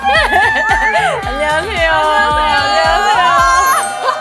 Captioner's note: high-pitched greeting